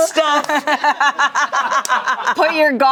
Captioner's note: everyone laughs